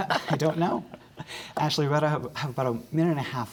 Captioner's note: laughter